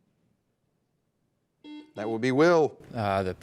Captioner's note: buzzer dings